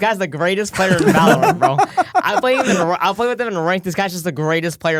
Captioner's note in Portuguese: risos